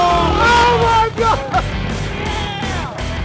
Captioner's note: laughing